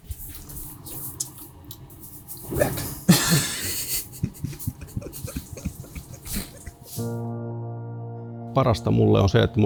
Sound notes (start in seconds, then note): 3.0 laughter